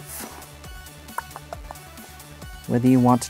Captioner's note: clicking tongue